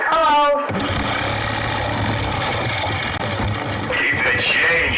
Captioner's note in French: ventilateur vrombissant